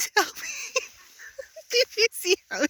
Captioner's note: laughter